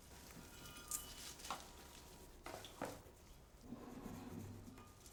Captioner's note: flowers rustling